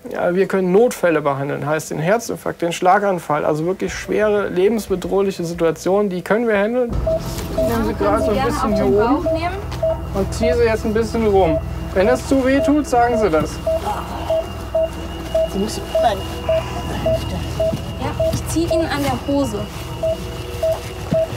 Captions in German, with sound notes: Wir können Notfälle behandeln, heißt Herzinfarkt, Schlaganfall, also wirklich schwere, lebensbedrohliche Situationen. (Angespannte Musik) Ich nehm Sie hier oben und zieh Sie so ein bisschen rum. Wenn das zu wehtut, sagen Sie das. (Sie ächzt.) Ja, ich zieh Ihnen an der Hose. (Spannungsvolle Musik)